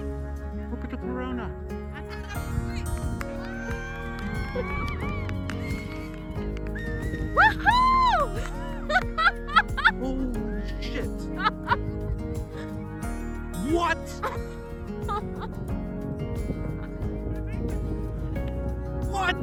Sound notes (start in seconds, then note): 5.1 exclamations continue; 7.1 elated screaming in the background